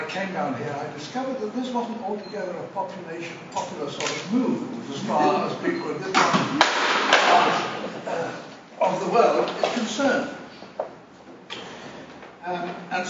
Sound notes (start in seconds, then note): 6.6 bang